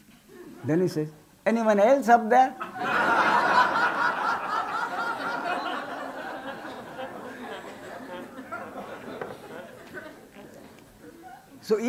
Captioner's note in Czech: smích